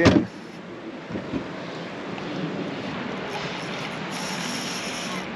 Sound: reel cranking

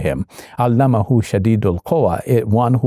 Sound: Shabir speaking Arabic

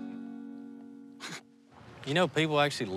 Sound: snickers

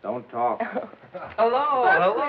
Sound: giggles

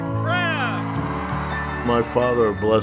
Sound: cheers

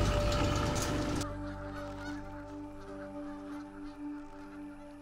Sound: birds squawking in distance

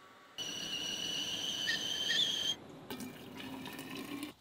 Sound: kettle whistling

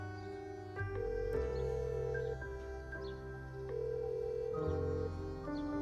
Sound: phone ringing out

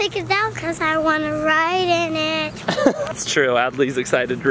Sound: laughs

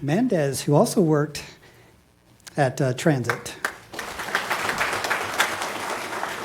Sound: applause

